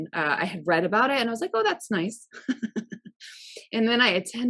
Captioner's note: laughs